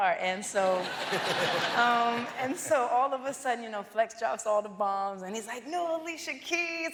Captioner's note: cheers and applause